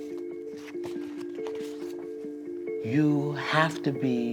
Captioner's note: none